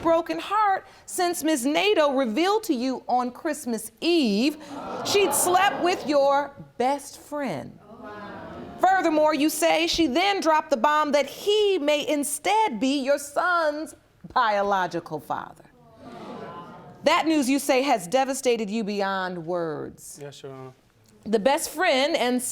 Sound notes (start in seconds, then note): 6.3 audience murmurs; 15.8 audience murmurs